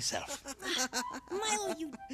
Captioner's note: laughing